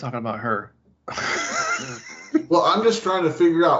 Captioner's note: laughs